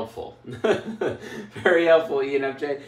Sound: laughs

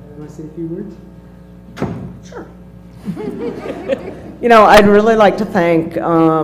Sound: laugh

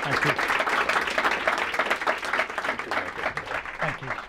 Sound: applause

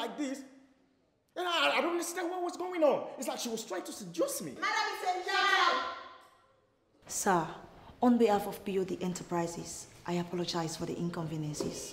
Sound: continues arguing

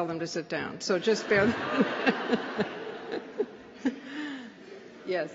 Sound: laughter

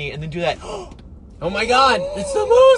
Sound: gasps

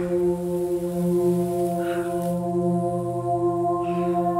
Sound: sigh of relief

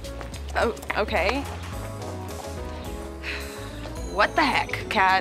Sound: sighs

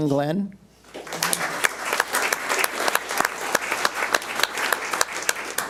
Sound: audience applauds

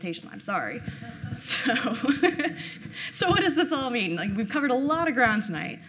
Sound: laughing

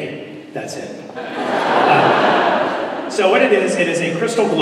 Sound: laughter

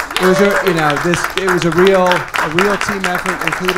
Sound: people clapping

